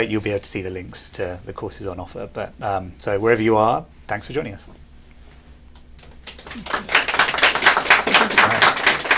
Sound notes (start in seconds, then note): 6.0 applause